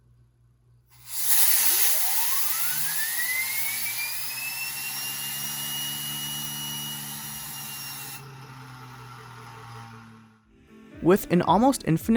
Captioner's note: jet engine takeoff